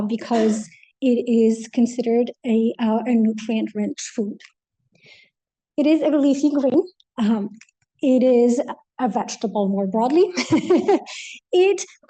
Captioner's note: laughs